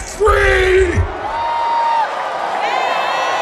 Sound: crowd whooping, cheering

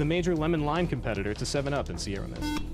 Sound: buzzer

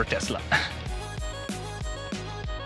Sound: upbeat music; laughs

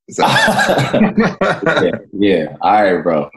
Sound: laughing

